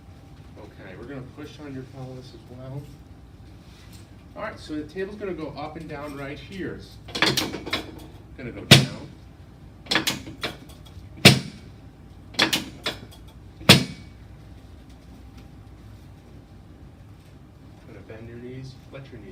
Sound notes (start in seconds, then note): 7.1 metal parts clank; 8.7 table thumps; 9.9 metal parts clank; 11.2 table thumps; 12.4 metal parts clank; 13.6 table thumps